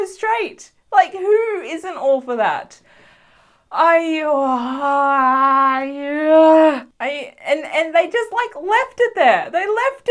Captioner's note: gay sighs